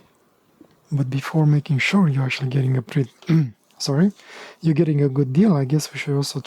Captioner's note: clearing throat